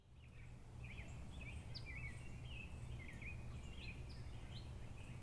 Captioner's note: birds chirping